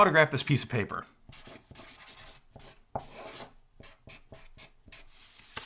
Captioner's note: writing scribbling sound